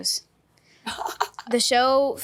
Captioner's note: Catherine chuckles